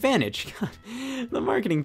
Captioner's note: chuckles